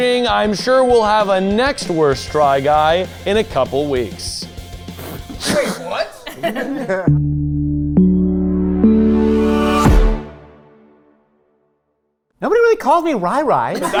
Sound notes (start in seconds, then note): 6.6 all chuckling; 7.1 chiming music